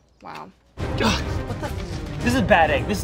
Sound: grunts

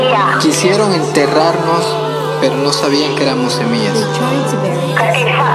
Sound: man speaking in language other than English

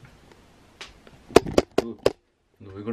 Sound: clattering noise

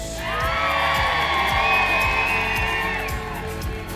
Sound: crowd cheering

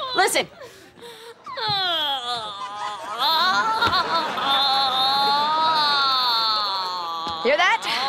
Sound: moaning

